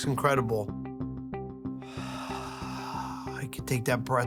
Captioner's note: Buddy exhales